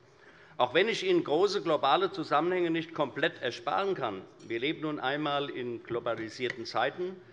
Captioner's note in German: none